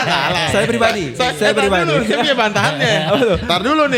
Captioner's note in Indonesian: tertawa